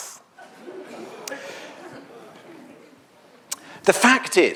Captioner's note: audience laughs